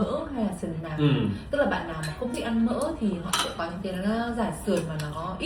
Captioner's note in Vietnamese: hắng giọng